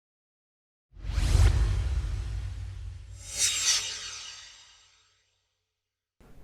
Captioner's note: swoosh